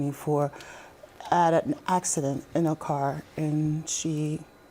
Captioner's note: none